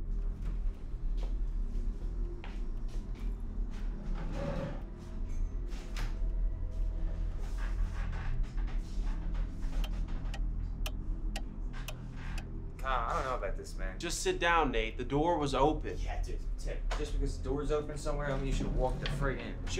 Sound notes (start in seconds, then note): 0.1 ominous music; 9.8 clock ticking; 10.1 ominous music